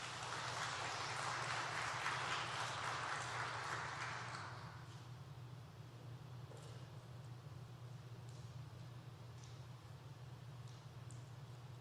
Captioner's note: applause